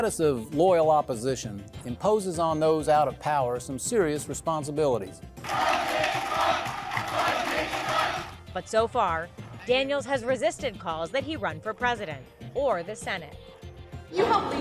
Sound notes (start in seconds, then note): 5.4 crowd